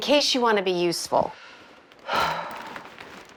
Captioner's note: Ruth scoffs